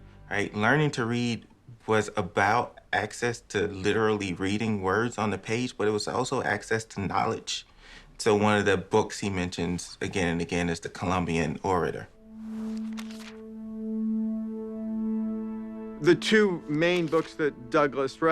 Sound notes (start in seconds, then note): 12.1 somber music; 12.5 pages flipping